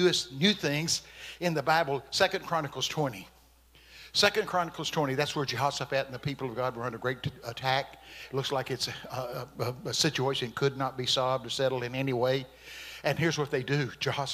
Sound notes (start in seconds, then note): none